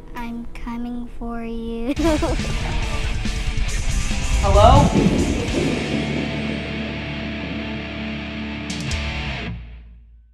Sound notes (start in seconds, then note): 1.8 giggles; 2.5 harsh rock music; 5.3 thunder crashes